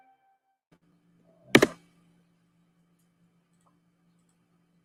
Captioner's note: mouse clicks